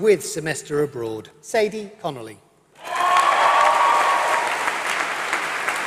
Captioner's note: applause